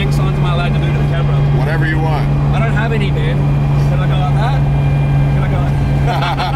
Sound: car engine; car engine drowns out talking

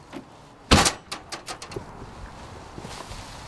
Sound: door slams

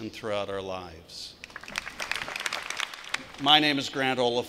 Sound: clapping

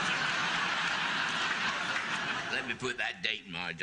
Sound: audience laughing

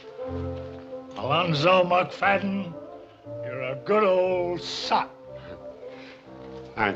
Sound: drunkenly

